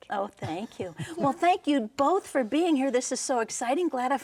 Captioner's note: laughing